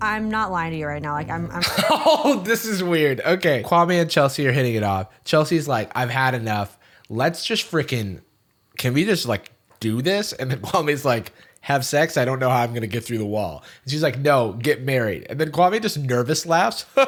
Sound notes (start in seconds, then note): 1.4 laughs